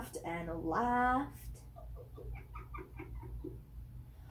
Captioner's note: Fox laughs